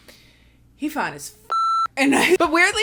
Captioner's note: beep